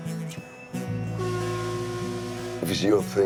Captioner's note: blows conch